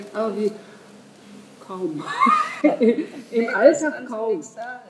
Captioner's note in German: Lachen